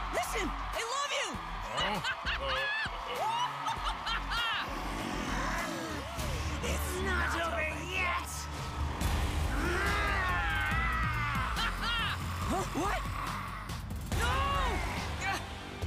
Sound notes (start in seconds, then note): 1.6 laughing; 1.7 Dan laughing; 4.6 growling; 9.5 growling; 14.5 grunting